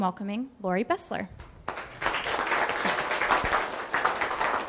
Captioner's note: applause